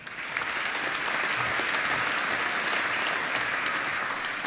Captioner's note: applause